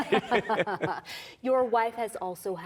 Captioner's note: laughter